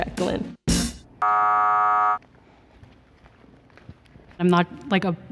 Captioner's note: buzzer sound